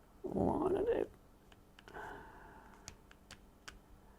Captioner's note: grunts